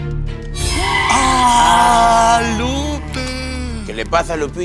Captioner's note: collective gay gasp